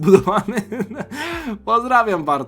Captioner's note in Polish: śmiech; wciągnięcie powietrza